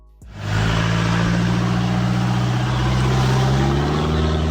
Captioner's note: car engine roaring